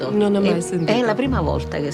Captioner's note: speaks in foreign language